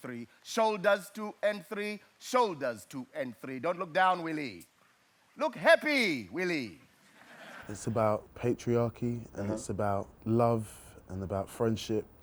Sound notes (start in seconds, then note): 6.9 audience laughs